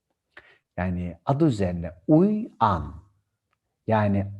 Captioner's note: in Turkish